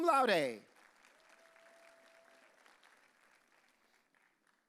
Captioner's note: audience cheering